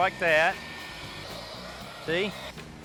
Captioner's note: whooshing